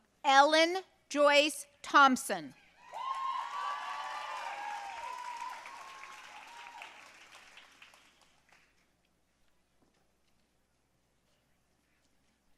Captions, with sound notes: Ellen Joyce Thompson. (audience cheering and applauding)